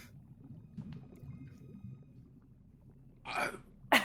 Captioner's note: water churning